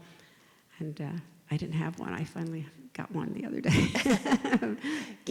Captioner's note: both laugh